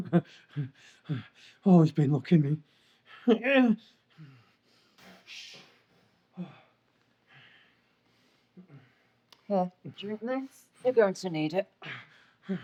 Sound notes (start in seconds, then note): 0.0 Solent chuckles; 3.9 groans